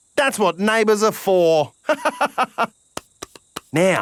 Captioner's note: laughs